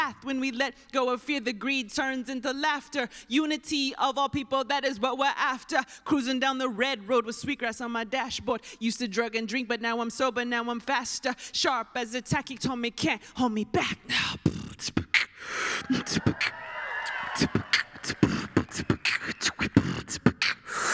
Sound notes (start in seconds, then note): 15.0 rap beat with mic; 15.8 applause